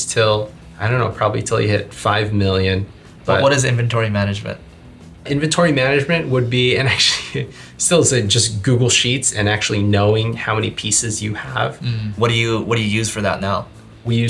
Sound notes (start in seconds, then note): 6.8 chuckles